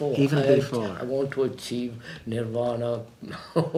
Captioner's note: laughs